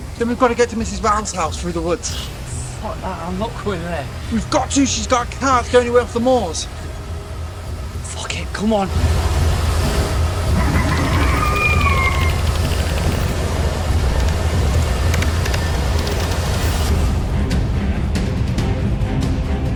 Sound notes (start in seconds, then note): 9.5 intense music; 10.4 alien shrieking; 15.3 dramatic music